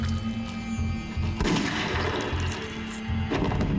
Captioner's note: gunshot